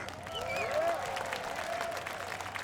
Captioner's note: applause